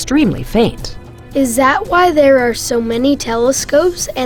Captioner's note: voiceover